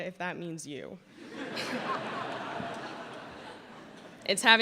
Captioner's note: laughter